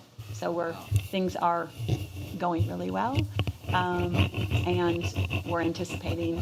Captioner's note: speaking quietly